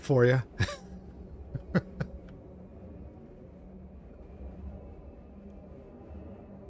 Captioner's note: laughs